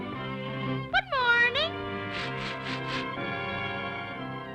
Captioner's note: cheerful music; fish food shaking; somber music